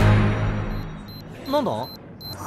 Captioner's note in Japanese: アラーム